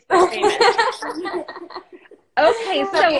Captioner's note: all laughing